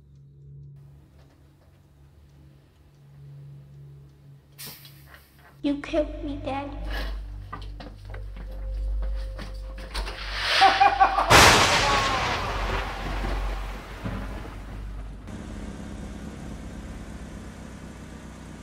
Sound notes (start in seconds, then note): 10.2 thunder crashing; 10.4 psychic laughing